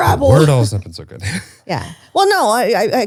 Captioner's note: laughs